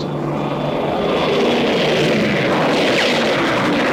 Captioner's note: planes buzzing; aircraft weapons firing